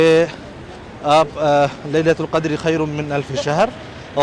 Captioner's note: Arabic